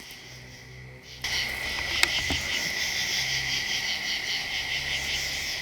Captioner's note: insects chirping